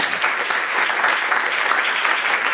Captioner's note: applause